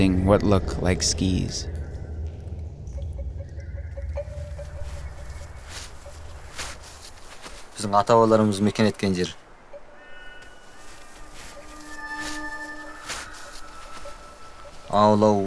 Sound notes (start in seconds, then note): 5.2 snow crunching; 7.5 speaking Chinese: English translation on screen; 15.2 speaking Chinese: English translation on screen